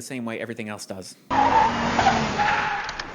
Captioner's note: car tires screeching